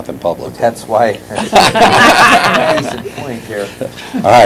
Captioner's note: laughter